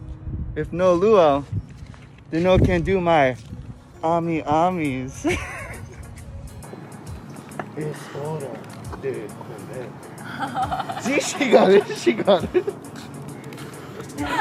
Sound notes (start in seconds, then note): 5.2 laughs; 7.8 speaking in Spanish; 10.1 laughs